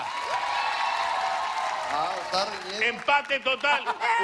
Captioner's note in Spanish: aplausos